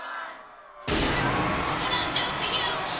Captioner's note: crowd cheering